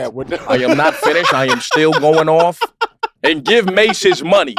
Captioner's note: laugh